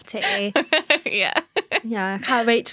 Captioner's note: laughter